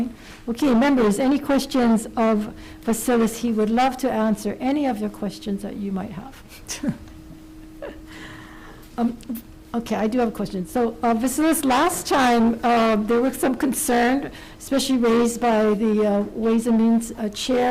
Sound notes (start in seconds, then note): 7.8 laughs